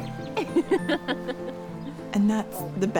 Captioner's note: laughter